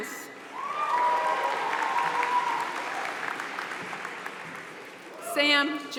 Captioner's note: applause